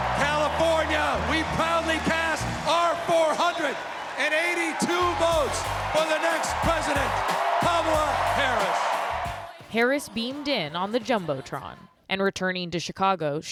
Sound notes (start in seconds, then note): 9.6 applause; 9.6 cheering